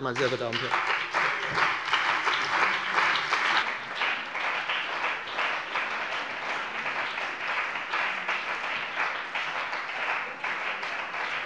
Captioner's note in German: Beifall bei der CDU und dem BÜNDNIS 90/DIE GRÜNEN